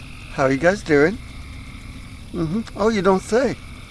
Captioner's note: crickets